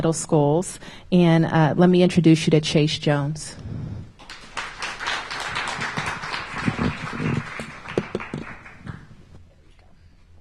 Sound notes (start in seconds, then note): 6.3 applause